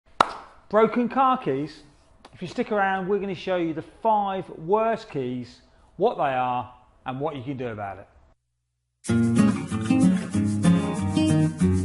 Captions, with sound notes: - (claps) Broken car keys? If you stick around, we're gonna show you the five worst keys, what they are, and what you can do about it. (cheerful music)